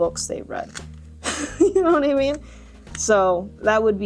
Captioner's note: chuckles